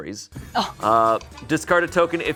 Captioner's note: gasps